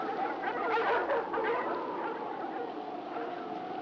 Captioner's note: dogs barking